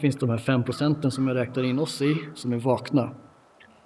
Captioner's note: A bird caws